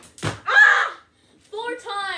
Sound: screams

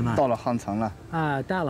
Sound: speaks in foreign language

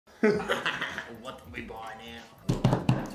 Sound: laughing

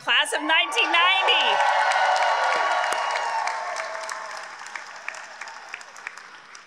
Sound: graduates cheering; graduates applauding

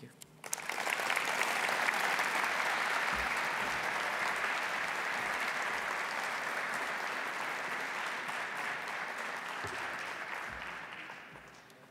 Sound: applause

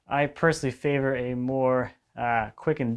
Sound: none

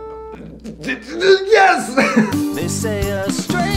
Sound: sputters

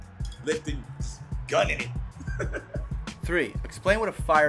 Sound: laughs

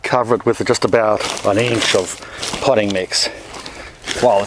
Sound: package crackles

